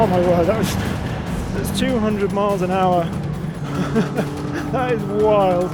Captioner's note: chuckles